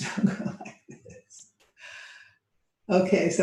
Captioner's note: laughing